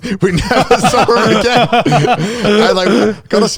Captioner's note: all laughing